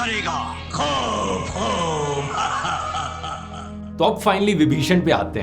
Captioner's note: an evil laugh